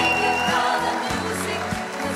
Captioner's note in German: Jubel, Applaus